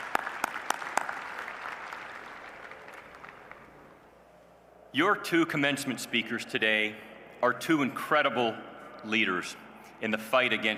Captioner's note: applause